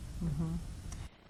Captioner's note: laughs